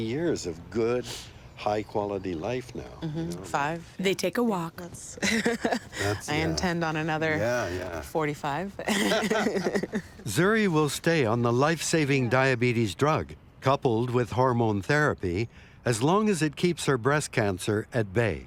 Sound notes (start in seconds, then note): 5.2 laughs; 8.8 laughter